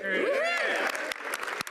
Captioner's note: speaking French